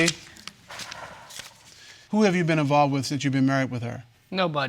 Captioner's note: exhales